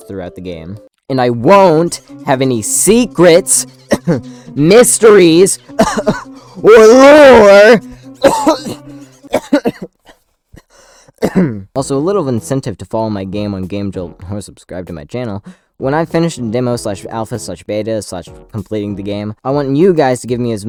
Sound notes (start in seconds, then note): 5.5 cough